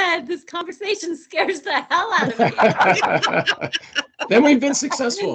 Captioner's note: laughing